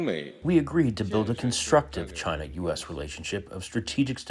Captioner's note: through translator